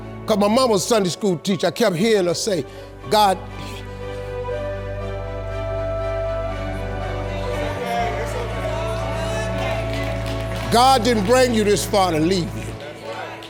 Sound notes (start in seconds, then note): 8.6 audience cheers